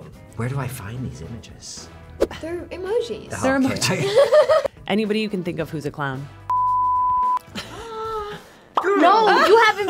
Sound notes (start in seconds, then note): 3.9 laughs; 6.5 tone beeps; 7.6 gasps